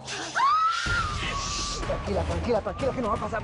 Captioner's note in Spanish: Gritos